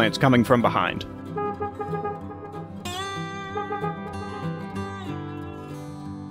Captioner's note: distant honking